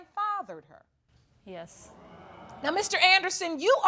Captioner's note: audience exclaiming